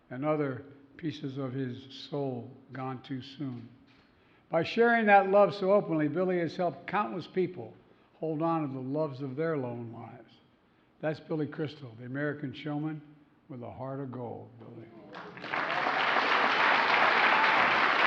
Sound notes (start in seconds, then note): 15.1 applause